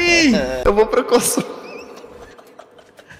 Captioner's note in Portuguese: risos